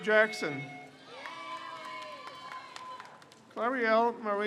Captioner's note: crowd cheers